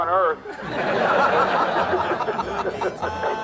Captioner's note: crowd laughs